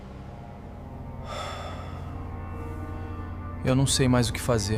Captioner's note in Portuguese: suspirando